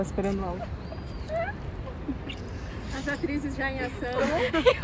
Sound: laughing

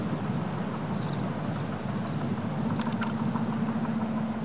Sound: birdsong

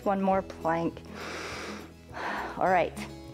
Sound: inhales and exhales

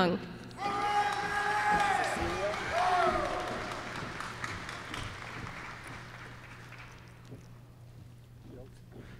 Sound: applause

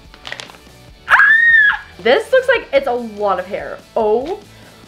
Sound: screaming

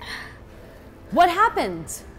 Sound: child deeply breathing

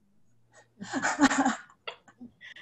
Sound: laughter

